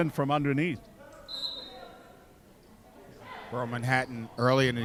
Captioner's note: referee whistling